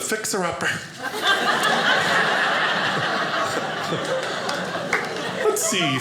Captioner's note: audience laughing